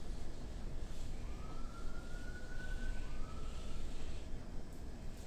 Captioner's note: siren whistles